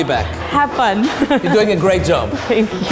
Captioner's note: laughs